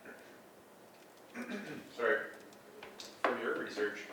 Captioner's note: clears throat